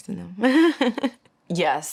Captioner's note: chuckles